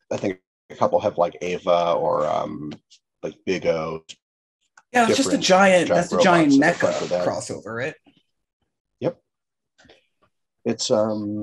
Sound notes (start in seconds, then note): none